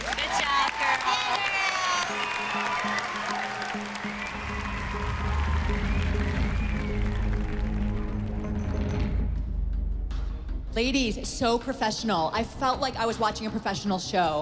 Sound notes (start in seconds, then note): 4.7 applause and cheering